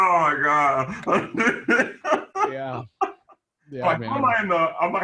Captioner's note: laughs